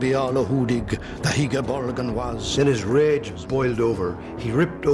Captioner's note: man speaking Old English